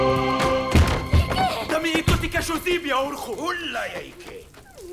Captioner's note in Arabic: الصوت المنطوق البدوي